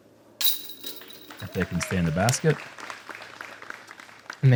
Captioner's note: applause